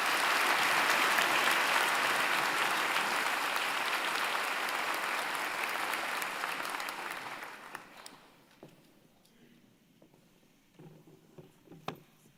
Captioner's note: applause